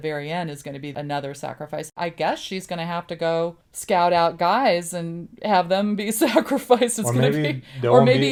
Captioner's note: laughs